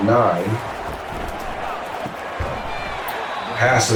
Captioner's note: crowd Noises